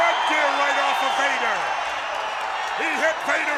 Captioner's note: audience cheers